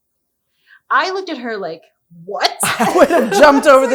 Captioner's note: laughs